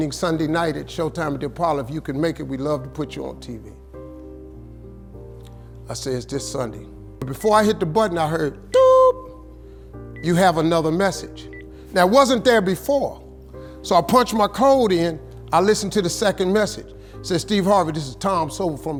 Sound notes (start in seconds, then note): 10.1 makes beep sound